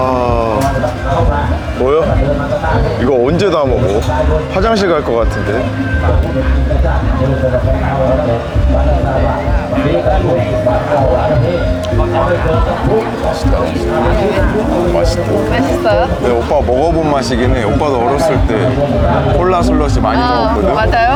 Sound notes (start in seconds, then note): 7.4 laughing; 15.0 laughing